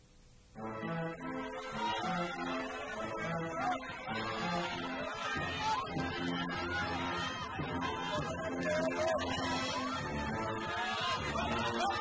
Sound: crowd cheering

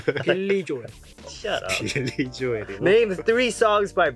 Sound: laughs

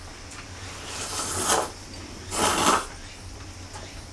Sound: sound of slurping somen noodles

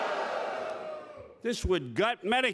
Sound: more boos

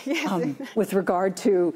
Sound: laughs

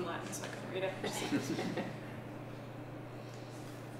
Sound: laughter

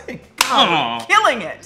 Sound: hands clap together

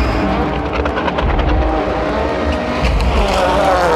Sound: cars revving; tense music

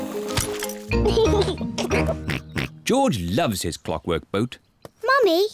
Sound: giggles

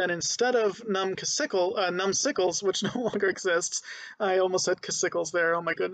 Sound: laughing

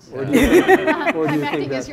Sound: laughter

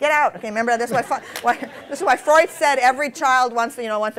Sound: laughter

